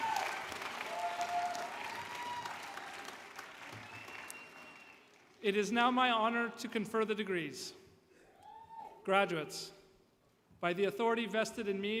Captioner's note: applause